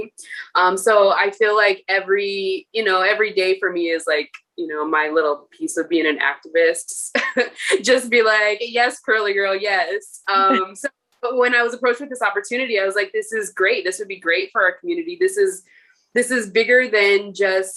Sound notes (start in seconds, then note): 7.0 laughter